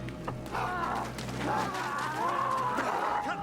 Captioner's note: man yells